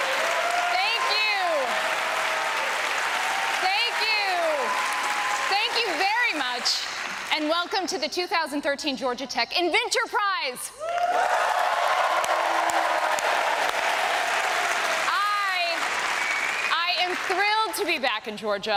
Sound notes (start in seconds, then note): 0.0 applause; 10.8 applause